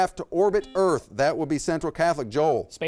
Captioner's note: buzzer beeps